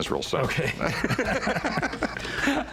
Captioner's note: both laugh